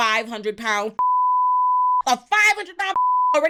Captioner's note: beep